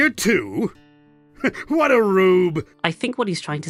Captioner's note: laughs